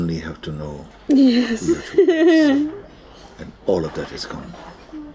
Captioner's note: laughs